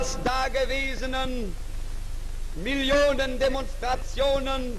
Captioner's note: speaking in German